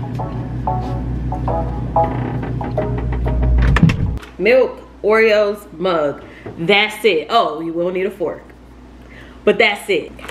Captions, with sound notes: (upbeat instrumental music) (refrigerator door creaking) Milk, Oreos, mug, that's it. Oh, you will need a fork. But, that's it.